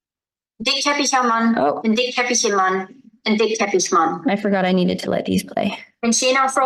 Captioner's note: recording playing; recording playing